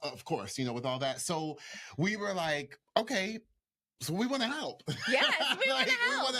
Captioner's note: laughs